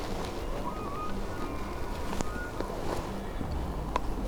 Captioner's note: elk bugling